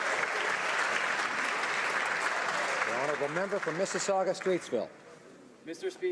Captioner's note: some Applause